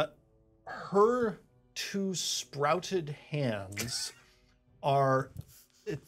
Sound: speaker chuckles

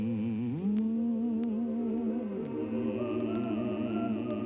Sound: humming

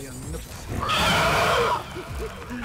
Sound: Man-Bat screeches; Joker laughing

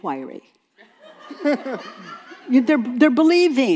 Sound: some in the audience laugh

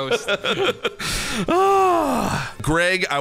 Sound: laughs

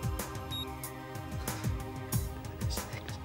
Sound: metallic rattling; beeping

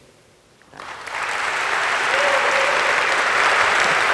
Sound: audience applauding

